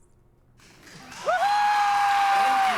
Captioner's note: cheering